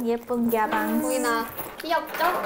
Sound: chink chink

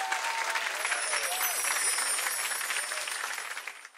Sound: chimes tinkling

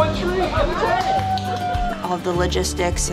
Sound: aquarists cheer

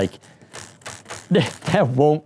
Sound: pen springing

